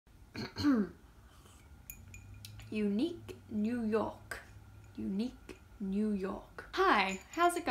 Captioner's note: clears throat